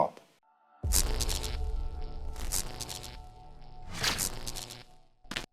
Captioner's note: electricity buzzing